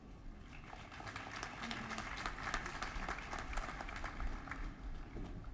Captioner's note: applause